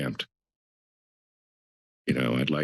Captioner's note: pause